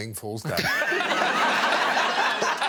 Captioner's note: laughter